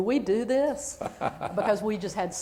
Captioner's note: laughter